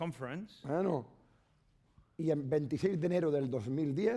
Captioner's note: speaking spanish